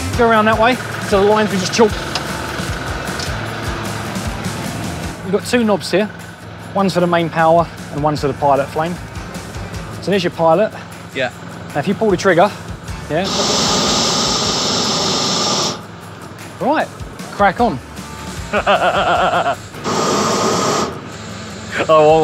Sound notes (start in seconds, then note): 3.0 upbeat music; 13.3 flame hissing; 18.4 laughing